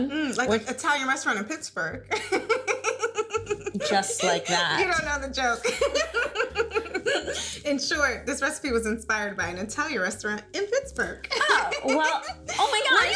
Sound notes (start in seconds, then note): 2.1 laughing